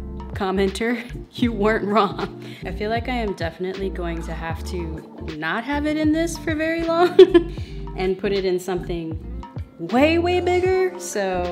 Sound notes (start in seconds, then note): 7.0 laughs